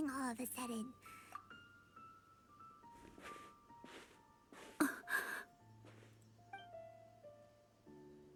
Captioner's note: gasping